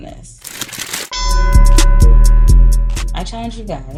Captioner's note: bell dings